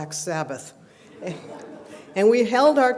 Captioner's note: laughter